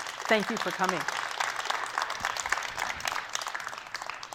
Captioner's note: applause